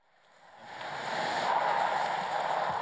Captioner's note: traffic noise